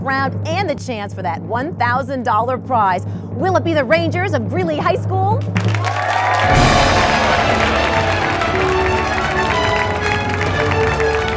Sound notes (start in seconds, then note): 5.4 crowd clapping; 6.0 inspired orchestral music